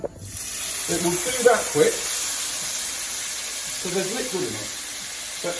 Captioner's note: sizzles